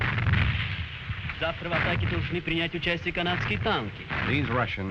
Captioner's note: gunfire; loud explosions; man speaking Russian